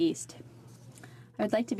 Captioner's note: speaking French